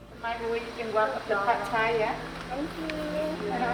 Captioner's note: indistinct conversation